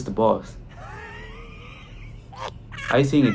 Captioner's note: laughs